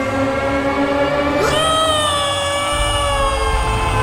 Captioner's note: scream